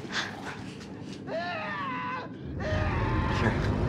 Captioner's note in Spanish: hombre gritando